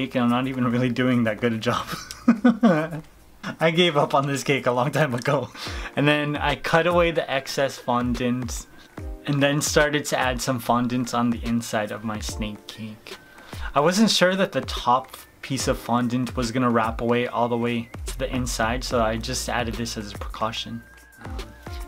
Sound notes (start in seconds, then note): 1.8 laughs